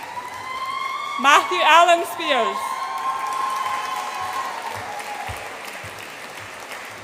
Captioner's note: audience applauds and cheers